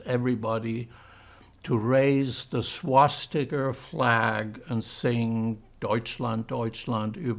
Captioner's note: german